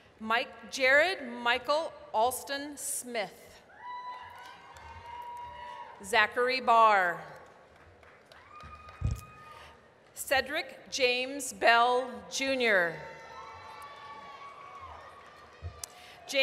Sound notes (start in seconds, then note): 3.8 applause, cheering; 7.4 applause; 13.4 applause, cheering